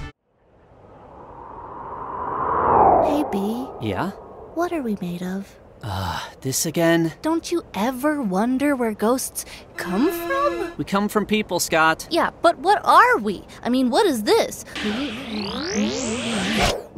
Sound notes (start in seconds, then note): 0.4 ghostly wind blowing; 10.8 matter of factly; 14.8 ghostly noises that a ghost makes